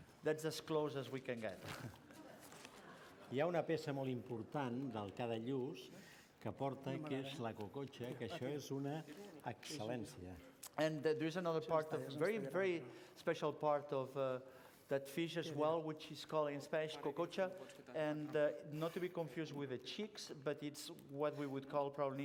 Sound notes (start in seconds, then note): 4.1 non-english speech; 17.2 non-english